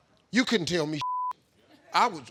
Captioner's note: beep